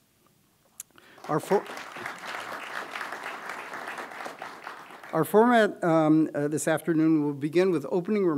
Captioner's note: applause